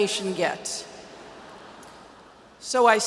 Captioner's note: audience laughs